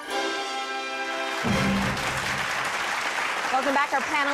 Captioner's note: dramatic music; applause